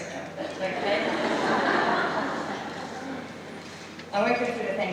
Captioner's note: laughter